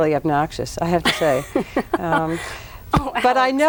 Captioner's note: laughs